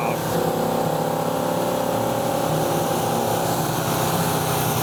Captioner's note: car engine roaring